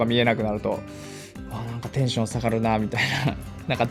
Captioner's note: chuckles